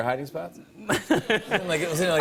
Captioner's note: laughter